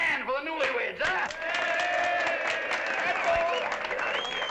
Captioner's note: applause